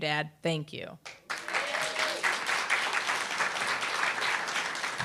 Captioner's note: applause, cheer